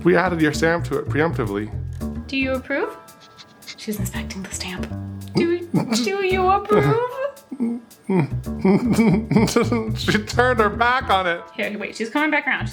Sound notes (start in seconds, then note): 8.0 laughing